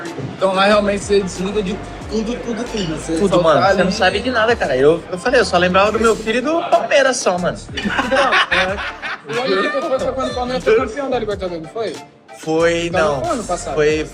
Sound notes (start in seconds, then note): 7.7 laughter